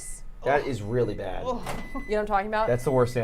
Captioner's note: microwave beeping